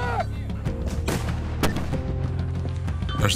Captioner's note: mortar firing